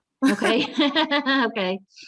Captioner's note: laughs